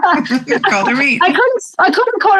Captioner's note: laughs